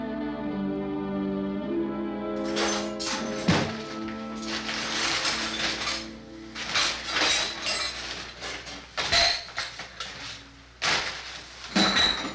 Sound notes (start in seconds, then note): 2.4 metal clattering